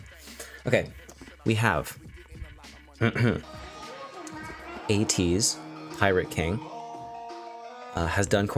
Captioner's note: ahem